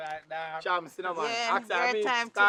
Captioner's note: mixed chattering